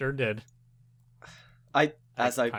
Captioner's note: sighs